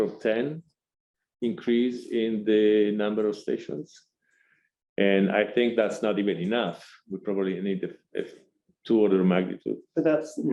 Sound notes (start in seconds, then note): none